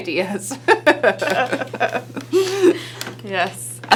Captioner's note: laughing